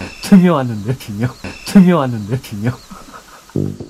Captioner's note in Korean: 웃음